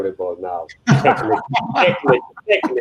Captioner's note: everyone chuckling